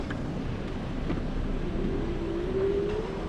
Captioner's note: none